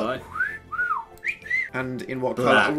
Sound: both wolf-whistle

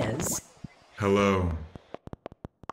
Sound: modulated voice; clicking sounds

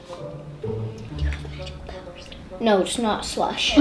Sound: whispers

